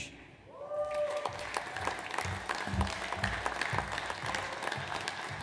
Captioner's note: audience applauds